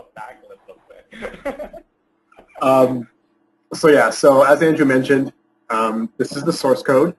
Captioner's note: laughs